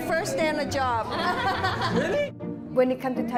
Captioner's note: laughs